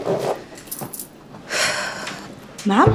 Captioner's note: Maya sighs